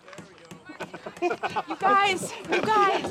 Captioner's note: both laughing